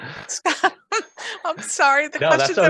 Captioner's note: laughs